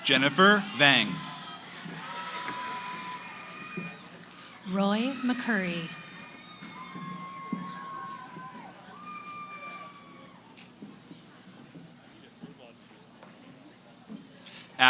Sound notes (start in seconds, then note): 7.3 cheering; 10.3 background conversations